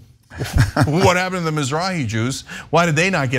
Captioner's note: laugh